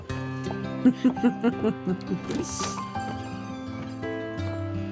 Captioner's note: gentle guitar music; laughing